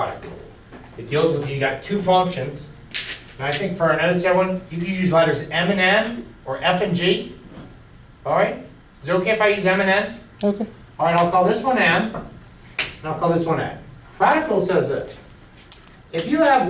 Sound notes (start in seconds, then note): none